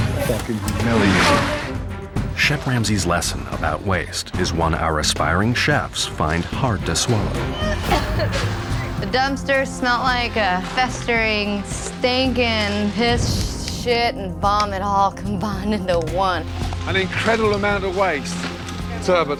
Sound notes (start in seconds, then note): 7.4 gagging